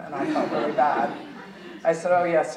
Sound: audience chuckling

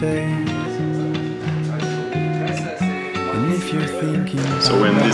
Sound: employee chattering

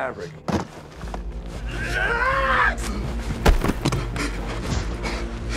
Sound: screaming

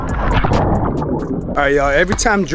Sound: water splashes

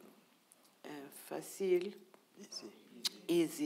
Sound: speaking in foreign language

